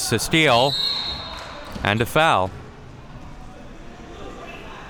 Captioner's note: spectators shouting